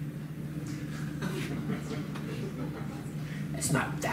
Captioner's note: laughs